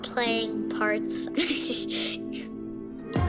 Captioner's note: laughs